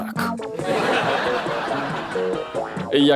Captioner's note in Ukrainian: закадровий сміх